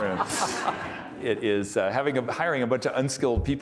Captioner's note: audience laughing